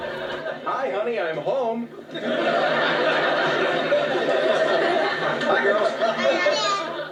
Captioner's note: laughter; laughter